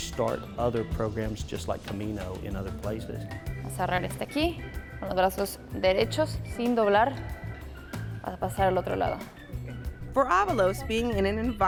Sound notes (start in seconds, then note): 3.7 speaking in foreign language